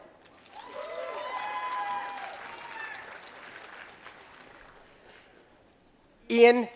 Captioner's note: applause